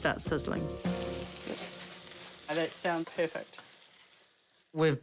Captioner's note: food sizzles